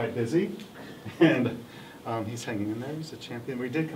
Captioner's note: laughs